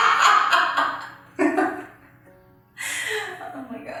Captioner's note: laughing